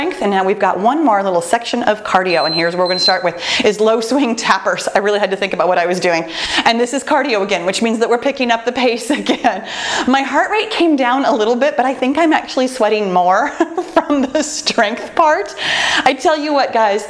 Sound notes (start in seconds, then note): 2.3 timer beeps